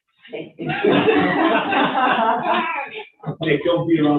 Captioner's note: all laughing